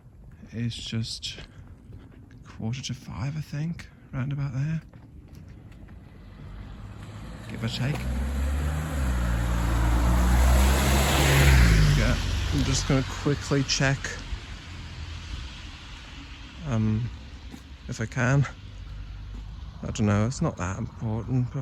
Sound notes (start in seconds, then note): 9.8 car passing